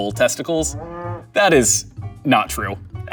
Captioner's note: bull roars